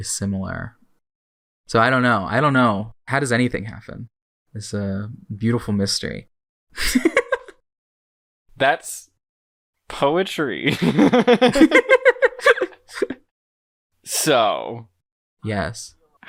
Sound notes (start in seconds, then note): 6.8 laughs; 10.6 both laugh